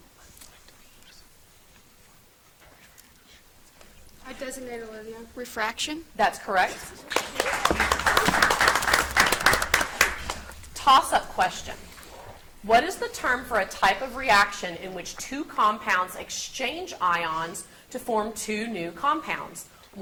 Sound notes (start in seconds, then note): 0.7 contestants whisper; 6.6 audience applauds